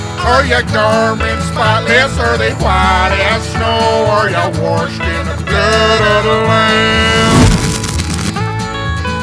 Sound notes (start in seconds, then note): 7.2 lightning strike